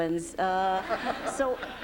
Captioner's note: laughter